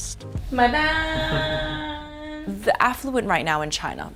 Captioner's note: speaking foreign language